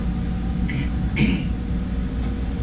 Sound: clears throat

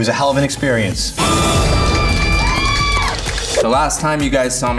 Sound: group cheering and clapping

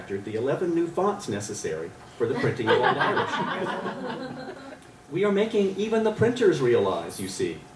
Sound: laughter

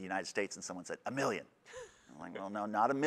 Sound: laughs

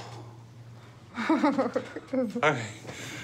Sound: laughter

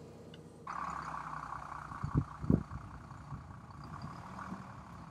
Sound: diesel engine running

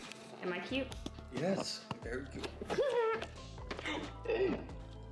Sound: laugh

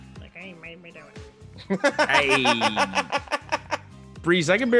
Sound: laugh

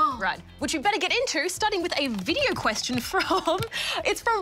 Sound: laughs

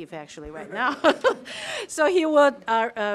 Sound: laugh

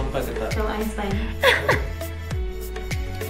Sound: laughs

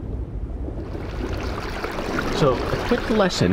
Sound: water gurgles

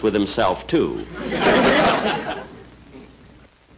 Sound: audience Chuckling

